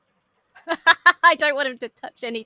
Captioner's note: laughs